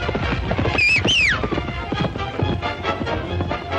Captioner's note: Stony whistles